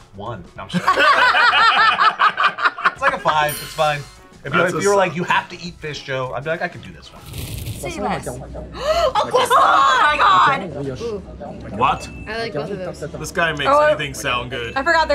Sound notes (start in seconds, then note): 0.7 everyone laughs; 8.0 speaking in French; 8.7 gasps